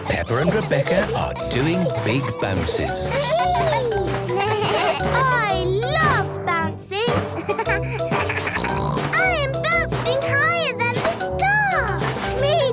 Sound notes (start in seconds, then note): 3.5 giggles; 4.8 bleating; 7.2 giggles, snorts